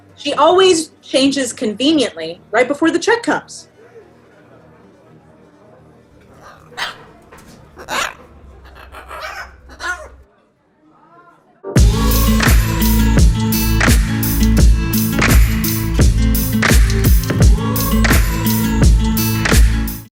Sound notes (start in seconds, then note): 7.5 parrot squawking; 11.7 upbeat music